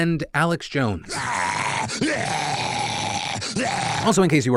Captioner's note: growls